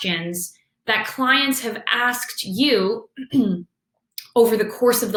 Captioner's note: clears throat